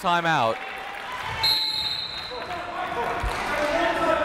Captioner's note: whistle